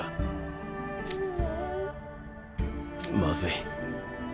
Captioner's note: baby noises